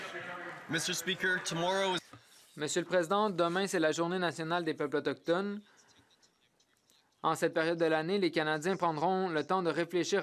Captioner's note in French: voix de l'interprète